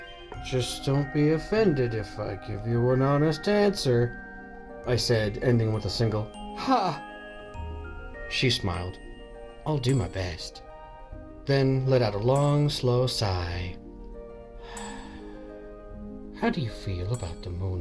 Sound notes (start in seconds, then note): 14.6 sigh